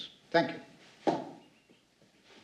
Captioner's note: stomps foot